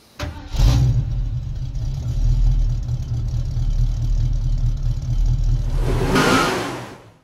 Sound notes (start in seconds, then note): 0.1 engine Revving; 5.6 tires Sqeeling